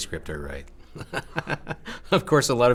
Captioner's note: laughing